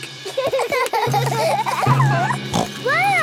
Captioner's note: children giggling; snorts